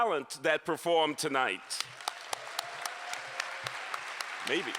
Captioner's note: applause